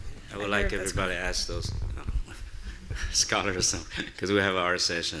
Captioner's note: chuckles